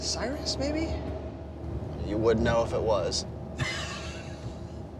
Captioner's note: laughs